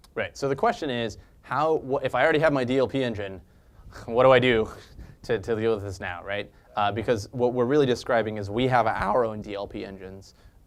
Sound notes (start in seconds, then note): 3.4 laugh